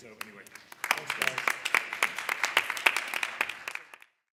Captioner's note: applause